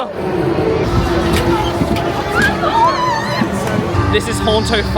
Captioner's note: guests chattering; machine slams